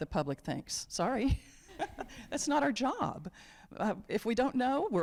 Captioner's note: chuckles